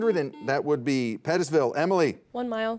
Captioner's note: buzzer beeps